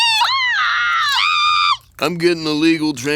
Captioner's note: shrieking